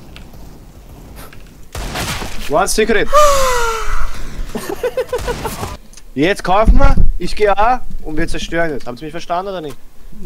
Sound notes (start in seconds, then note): 3.7 moan; 4.5 laugh